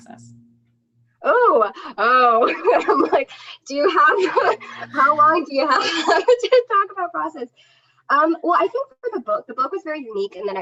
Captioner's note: laughter